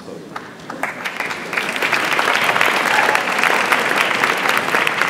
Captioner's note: audience applauds